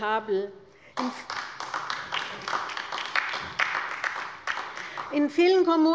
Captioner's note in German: Beifall bei der LINKEN